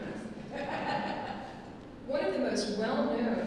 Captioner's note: laughs